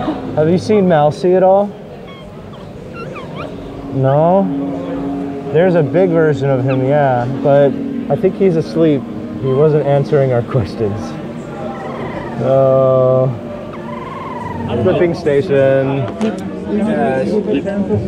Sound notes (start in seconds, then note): 2.0 squeaking; 11.7 squeak-snoring